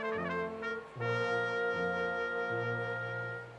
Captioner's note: none